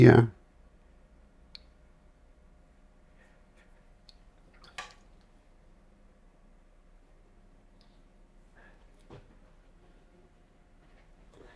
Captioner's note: silence